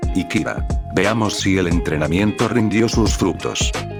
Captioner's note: surprised